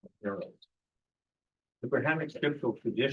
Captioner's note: speaking in foreign language